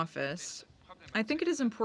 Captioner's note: speaking French